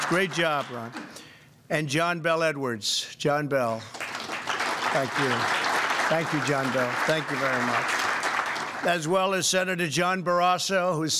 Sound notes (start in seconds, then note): 3.8 applause